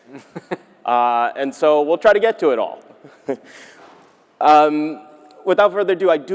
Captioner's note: laughing; laughs